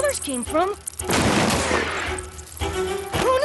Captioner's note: crash